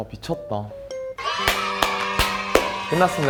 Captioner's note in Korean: 박수 짝짝